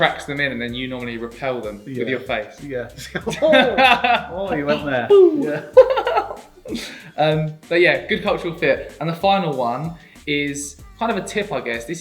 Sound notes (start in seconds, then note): 3.0 laughing; 6.1 chuckling